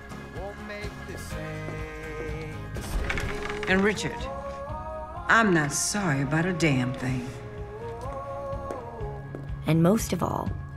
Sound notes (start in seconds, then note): 2.8 door opens